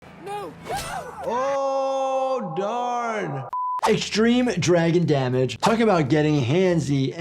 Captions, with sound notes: - No, no! - Oh, darn! (test pattern beeping) Extreme dragon damage, talk about getting handsy,